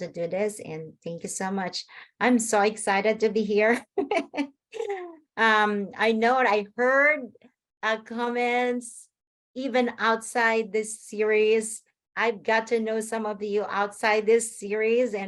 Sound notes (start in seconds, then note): 5.1 laughs